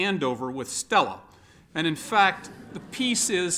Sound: laughter

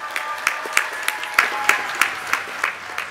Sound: applause

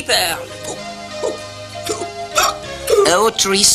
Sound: hiccuping continues

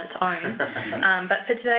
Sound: laughter

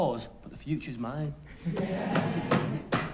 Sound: banging on desks

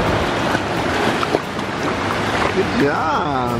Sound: splashing

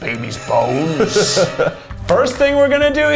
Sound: laughs

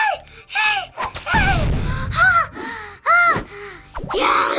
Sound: breath of relief

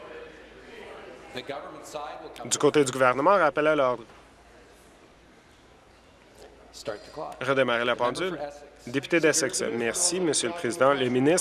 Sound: conversation din

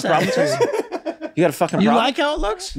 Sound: laughs

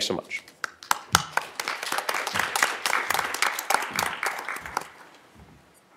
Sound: applause

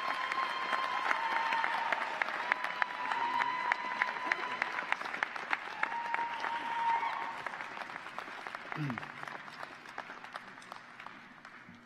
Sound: applause

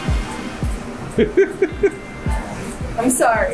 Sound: laughing

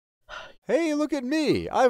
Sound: Stringbean exhales

